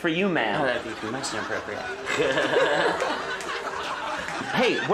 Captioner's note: nervously laughs